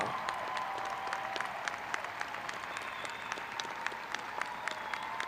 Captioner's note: graduates cheering